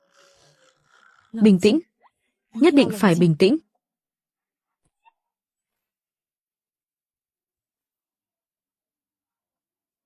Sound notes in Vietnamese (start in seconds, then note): 0.7 khịt mũi